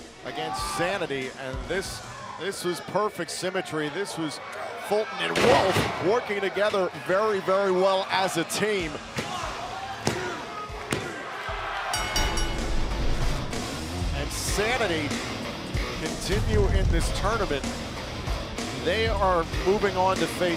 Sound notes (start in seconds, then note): 10.6 crowd cheering; 11.9 bell ringing